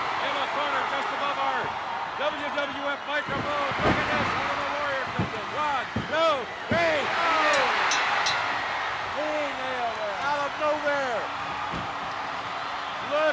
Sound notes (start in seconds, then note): 7.4 bell ringing